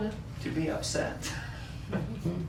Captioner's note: laughter